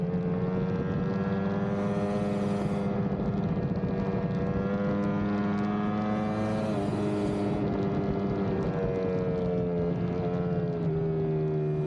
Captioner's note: engine roaring